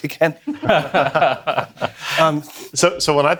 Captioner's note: all laugh